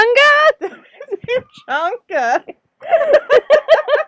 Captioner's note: laughter